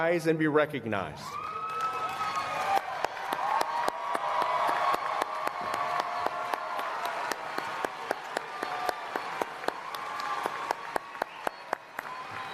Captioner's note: applause